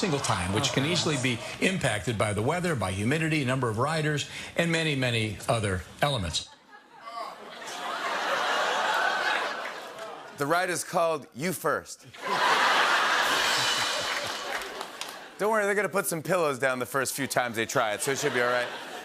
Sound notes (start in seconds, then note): 6.5 laughter; 13.2 cymbal crash